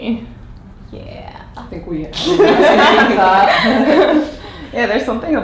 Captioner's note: laughs